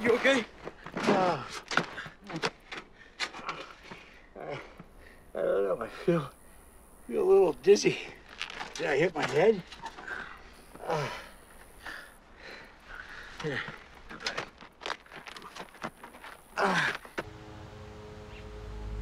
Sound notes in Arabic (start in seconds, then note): 1.1 آهات